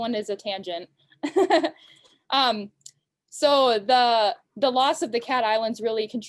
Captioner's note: giggles